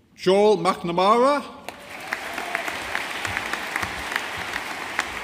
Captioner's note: audience applauding